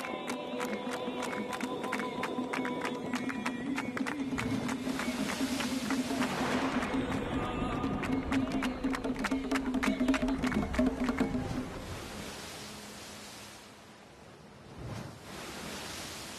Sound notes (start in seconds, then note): 4.1 waves crashing